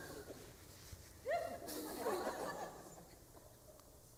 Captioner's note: laughter